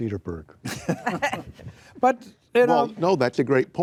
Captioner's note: group laughing